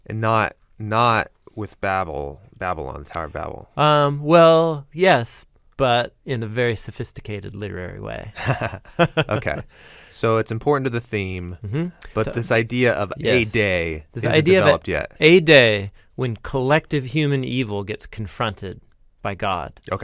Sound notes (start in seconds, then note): 8.3 both chuckle